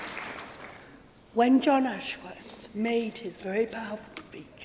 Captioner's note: applause